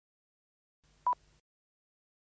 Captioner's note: beeps